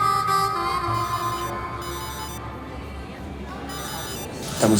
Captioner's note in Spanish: Suena el celular